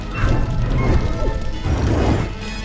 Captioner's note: whoosh